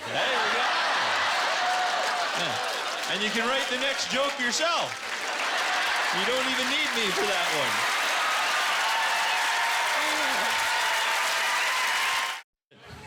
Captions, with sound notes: (Laughter) And you can write the next joke yourself. (Laughter) You don't even need me for that one. (Applause)